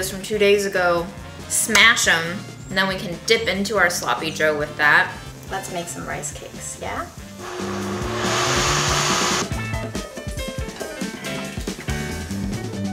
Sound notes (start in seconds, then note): 7.3 blender whirring; 10.3 upbeat music